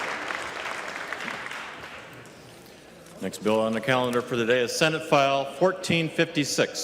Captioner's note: applause